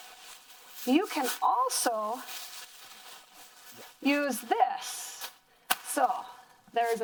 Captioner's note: plastic crinkling